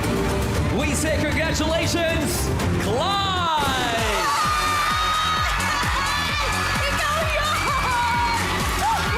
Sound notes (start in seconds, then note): 3.5 audience cheering